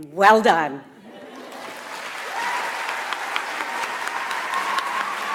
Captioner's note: audience applauds